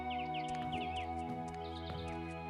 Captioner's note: walking